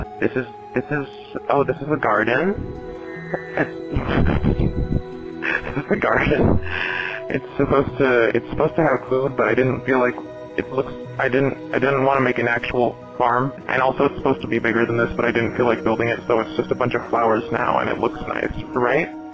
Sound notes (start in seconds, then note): 4.0 laughter